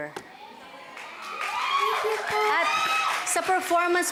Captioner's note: crowd cheers, applauds